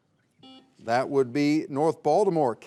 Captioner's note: buzzer beeps